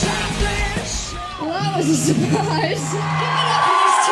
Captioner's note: laughs